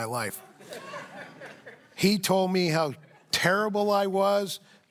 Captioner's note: laughter